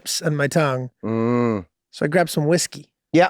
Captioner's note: Rob humming understandably